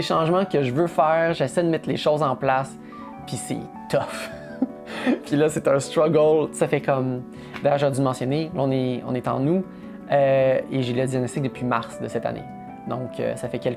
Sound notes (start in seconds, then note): 4.5 laughs